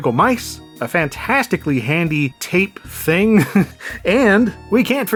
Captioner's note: chuckle